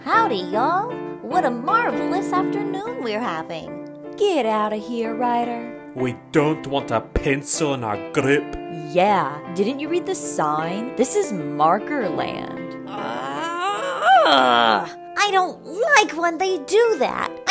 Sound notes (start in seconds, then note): 12.8 groans